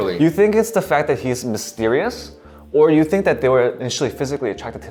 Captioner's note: none